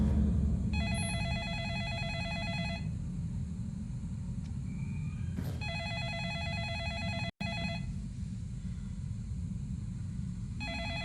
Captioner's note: telephone Ringing